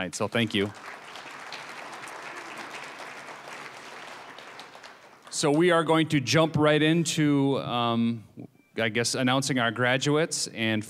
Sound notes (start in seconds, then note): 1.8 applause